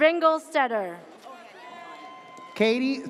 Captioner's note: audience cheers